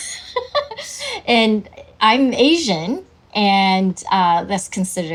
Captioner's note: laughs